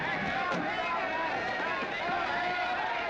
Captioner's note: all shouting at once